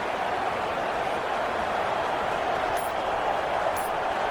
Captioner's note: crowd Noises